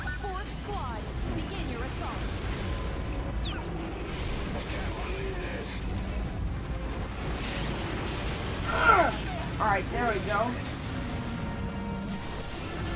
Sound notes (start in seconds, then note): 8.6 roars